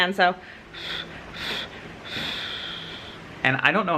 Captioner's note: blowing